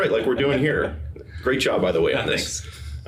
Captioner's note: laughing